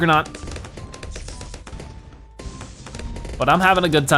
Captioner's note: weapons firing